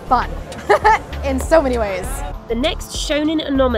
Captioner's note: laughs